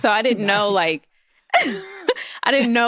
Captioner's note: laughs